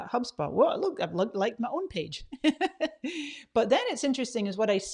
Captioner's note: laughs